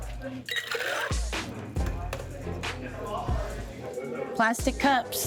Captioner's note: drink pouring